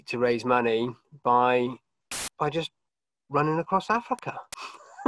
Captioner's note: laughs